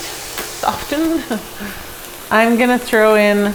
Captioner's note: laughs